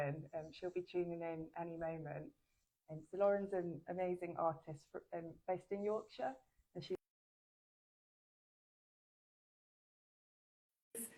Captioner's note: audio cuts out